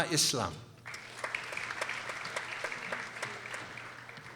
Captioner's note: people applauding